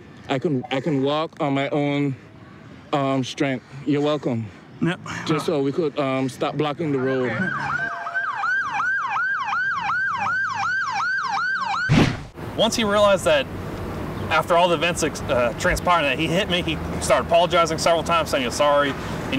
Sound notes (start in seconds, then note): 6.8 sirens wailing; 11.8 whoosh